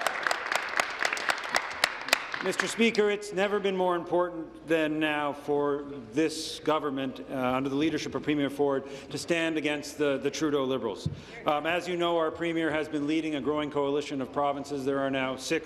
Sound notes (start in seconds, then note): 0.0 applause